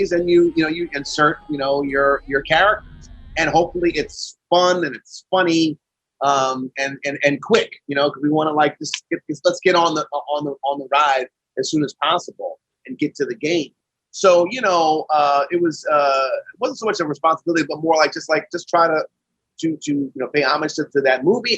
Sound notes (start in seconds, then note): none